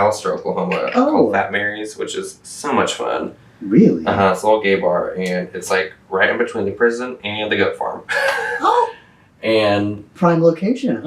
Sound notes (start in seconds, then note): 8.0 laughs